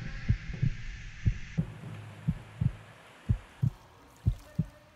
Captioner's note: heart beating